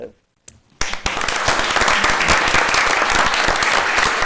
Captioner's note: applause